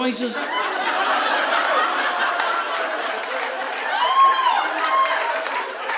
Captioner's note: audience laughing; audience applauding